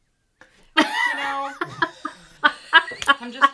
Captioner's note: chuckles